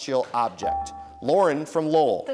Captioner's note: dinging